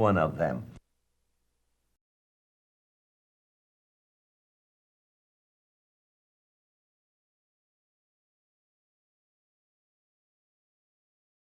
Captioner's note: silent